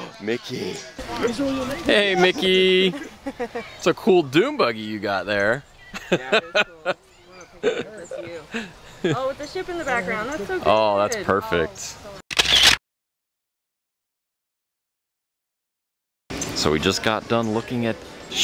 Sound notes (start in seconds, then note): 1.9 laughing; 7.4 laughing; 12.3 camera snap